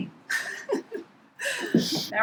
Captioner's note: laughs